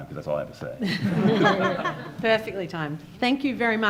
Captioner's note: laughing